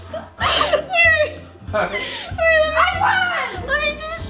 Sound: laughter

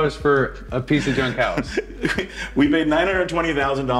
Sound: laughing

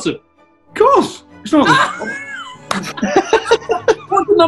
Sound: laughing

